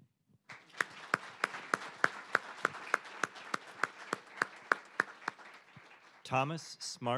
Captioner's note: applause